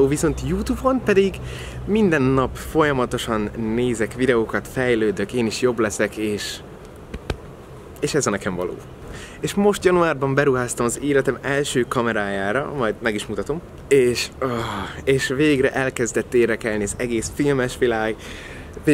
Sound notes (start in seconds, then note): 14.5 exhales deeply